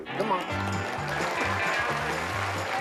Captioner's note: applause